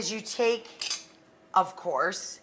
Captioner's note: metal scraping